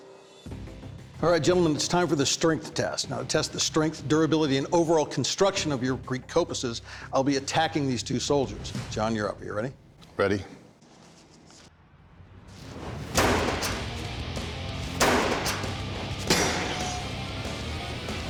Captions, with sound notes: All right, gentlemen, it's time for the strength test. Now, to test the strength, durability, and overall construction of your Greek kopises I'll be attacking these two soldiers. John, you're up. You ready? Ready. [clanging]